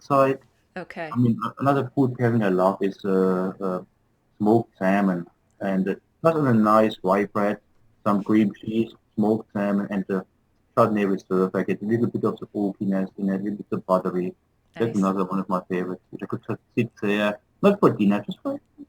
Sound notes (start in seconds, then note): 16.0 talking